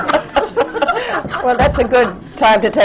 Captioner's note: laughter